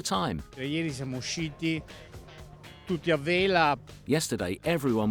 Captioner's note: speaking foreign language